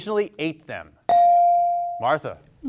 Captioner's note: bell rings